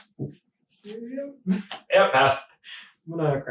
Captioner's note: laughing